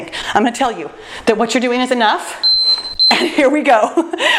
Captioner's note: timer beeps